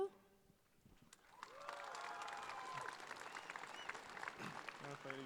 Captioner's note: audience claps